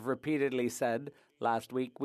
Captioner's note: speaking French